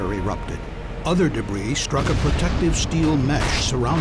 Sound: sound of explosion

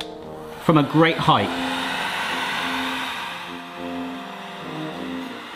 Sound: heat gun motor roaring

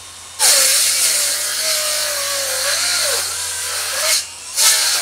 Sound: saw whirring

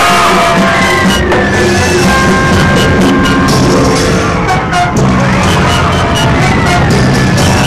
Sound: woman screams; worshipers yelling; dramatic music

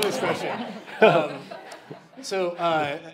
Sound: laughing

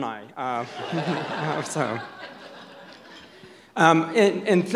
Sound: audience laughs

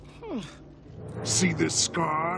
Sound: sighing

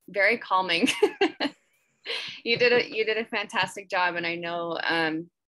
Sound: laughs

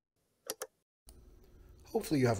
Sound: click

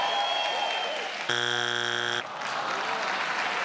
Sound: crowd cheers; buzzer beeps; crowd cheers

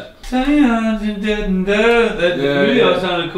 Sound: humming

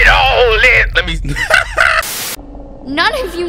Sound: cackles

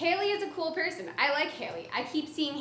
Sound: none

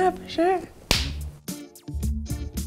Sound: smacking hands; upbeat music

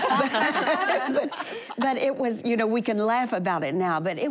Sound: laughter

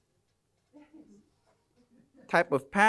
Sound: laughter

